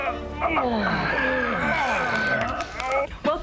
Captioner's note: groaning